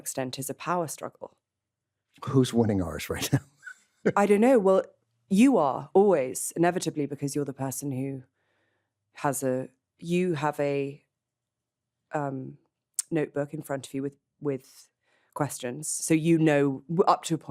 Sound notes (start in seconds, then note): 3.2 chuckles